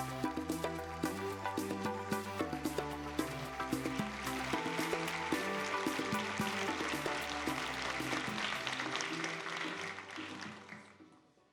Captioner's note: applause